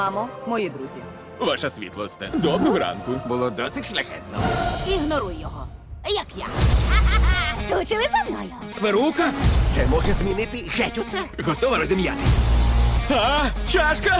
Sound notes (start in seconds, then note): 6.7 laughs